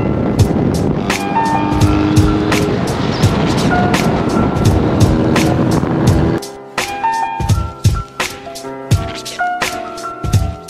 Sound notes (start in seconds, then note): 0.4 car engine revving; 0.4 upbeat music; 7.0 upbeat music continues